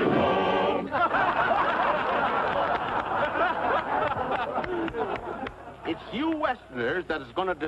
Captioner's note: laughter and clapping